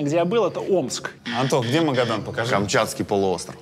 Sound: buzzer sound

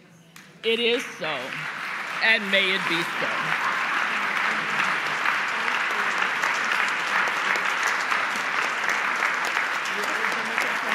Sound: applause

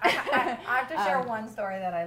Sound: laughter

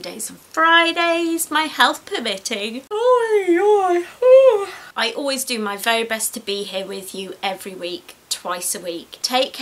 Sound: yawns loudly

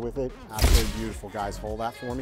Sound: camera shutter snaps

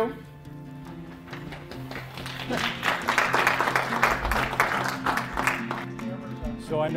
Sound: audience clapping

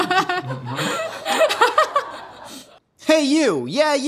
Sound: laughing

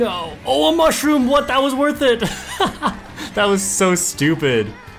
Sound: laughs

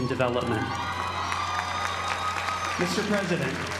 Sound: applause

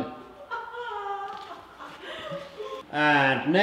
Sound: laughter

